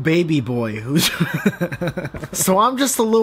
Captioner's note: chuckles